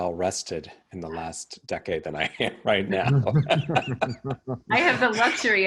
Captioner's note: chuckling